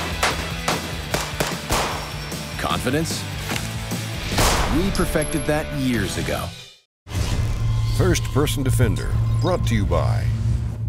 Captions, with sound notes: (rock music) Confidence? We perfected that years ago. - [Voiceover] First Person Defender brought to you by